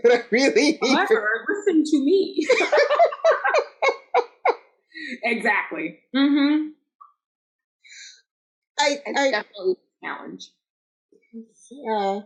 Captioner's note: laughter